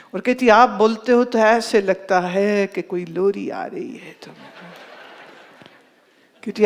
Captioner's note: audience laughs